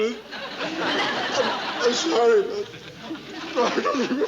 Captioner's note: sobbing